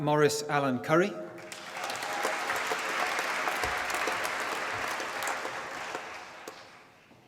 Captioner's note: applause